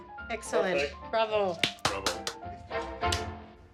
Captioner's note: claps